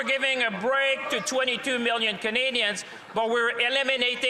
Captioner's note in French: voix de l'interprète